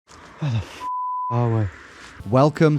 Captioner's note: beep